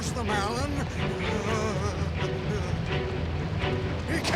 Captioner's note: stammers